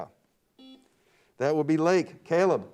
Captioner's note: buzzer beeps